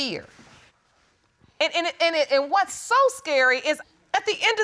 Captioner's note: stammers